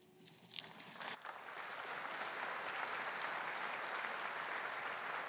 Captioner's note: audience applauding